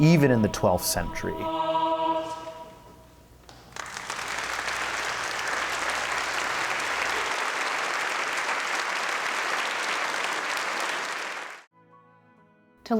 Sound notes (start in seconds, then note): 3.7 cheers and applause